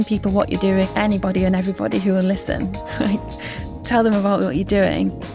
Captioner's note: chuckles